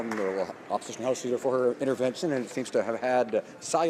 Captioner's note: some Applause